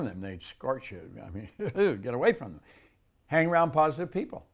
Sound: laughs

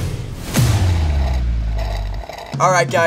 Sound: slurping

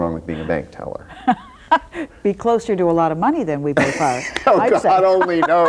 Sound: laughs

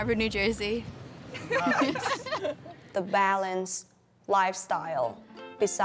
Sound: students laugh

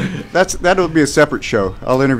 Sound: laughter

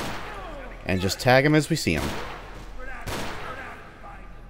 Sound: more gunshots

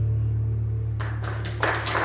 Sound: audience applauding

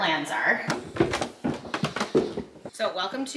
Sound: stairs creaking

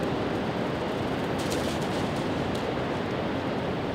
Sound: dog chasing

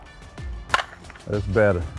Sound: ball cracks

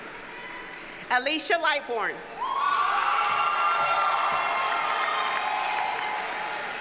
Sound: audience cheers and applauds

